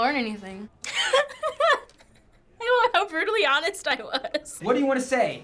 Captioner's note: laughing